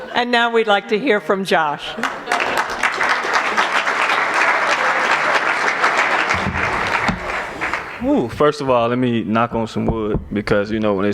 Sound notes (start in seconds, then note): 2.0 applause